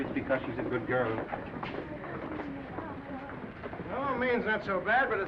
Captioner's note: viewers chattering